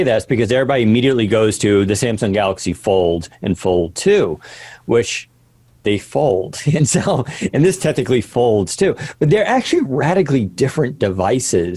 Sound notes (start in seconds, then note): 6.7 laughing